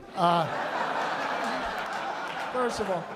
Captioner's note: laughter